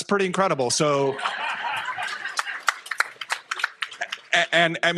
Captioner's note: laughter